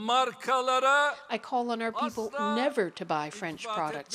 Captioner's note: speaking Foreign Language